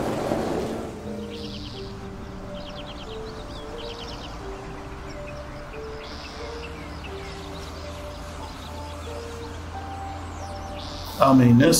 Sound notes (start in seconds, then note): 2.1 birds chirping; 9.1 mysterious music continues